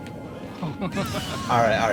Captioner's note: laughing